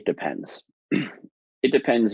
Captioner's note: clears throat